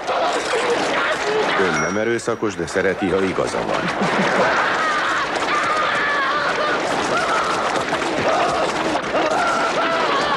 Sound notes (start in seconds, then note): 0.1 dinging; 1.5 coin clinking; 3.5 chuckles; 4.7 screaming